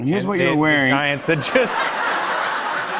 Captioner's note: laughter